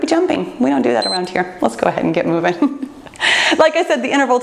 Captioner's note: timer beeps